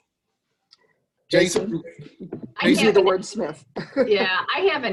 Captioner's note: laughing